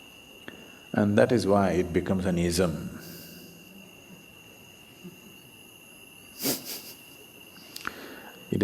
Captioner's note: laughs